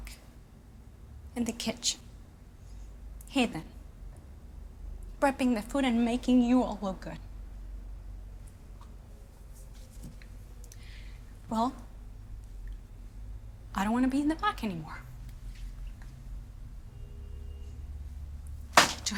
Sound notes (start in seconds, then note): none